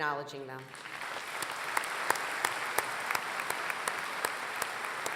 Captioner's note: applause